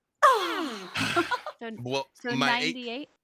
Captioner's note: groans